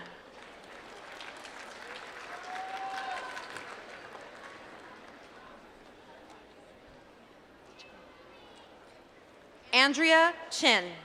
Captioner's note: applause